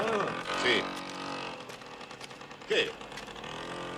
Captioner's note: motor noise